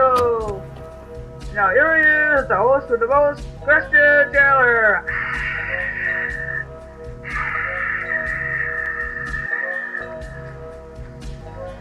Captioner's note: imitates applause